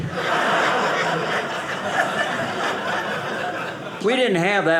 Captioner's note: audience laughing